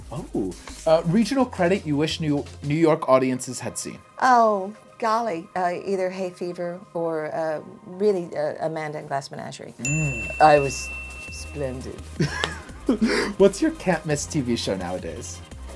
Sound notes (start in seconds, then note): 12.1 laughs